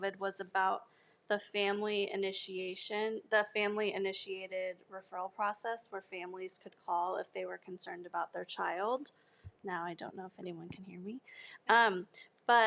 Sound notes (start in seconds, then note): none